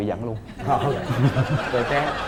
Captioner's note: laughing